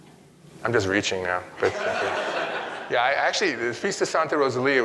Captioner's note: audience laughing